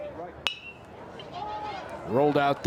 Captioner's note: bat dings